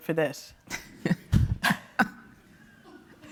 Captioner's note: giggles; laughs